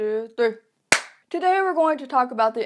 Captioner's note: clap